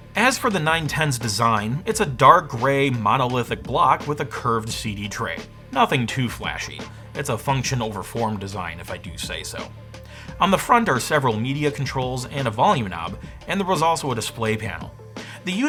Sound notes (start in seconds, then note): none